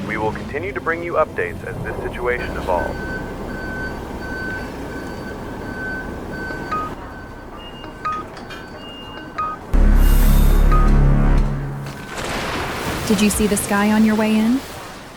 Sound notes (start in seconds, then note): 6.7 heart monitor alarm sounding; 9.6 creepy music; 11.7 satellite passing overhead